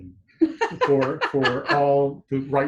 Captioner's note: laughs